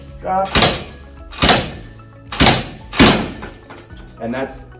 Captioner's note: machinery clanking